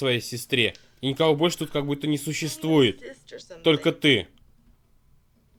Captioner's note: sighs